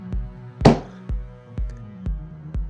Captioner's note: slams desk